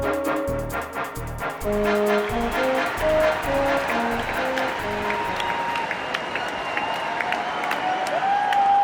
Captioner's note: crowd noises